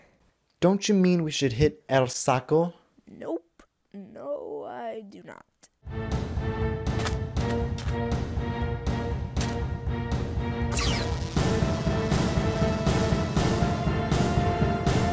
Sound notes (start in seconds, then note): 1.8 foreign language; 5.5 dramatic music; 10.7 laser buzzing